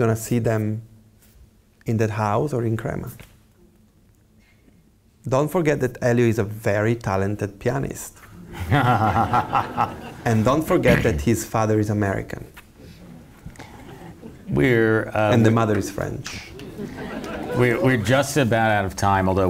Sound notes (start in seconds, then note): 8.4 laughs